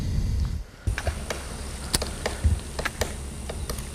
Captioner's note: wood pecker knoting on the tree